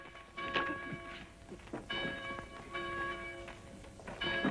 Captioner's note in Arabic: رنين الأجراس